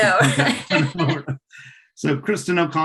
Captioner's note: laughs